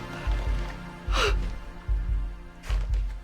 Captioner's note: panting